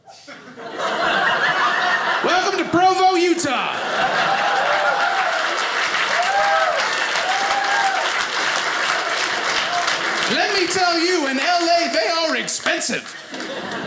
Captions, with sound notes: (audience laughing) Welcome to Provo, Utah! (audience cheers) Let me tell you in LA they are expensive